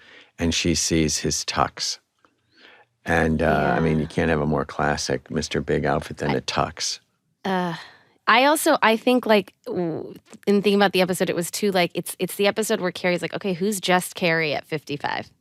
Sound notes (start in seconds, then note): 7.9 sighs